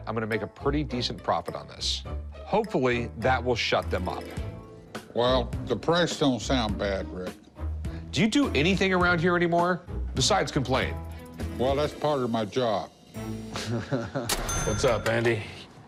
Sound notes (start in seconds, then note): 13.5 laughter; 14.3 cash register rings